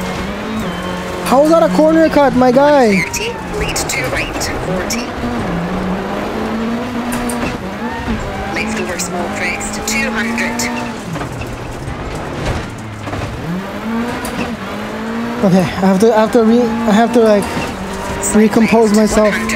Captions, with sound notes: How is that a corner cut my guy? 30. Lead two right. 40. Left over small crest. 200. (engine revving) Okay. After me, I have to like recompose myself.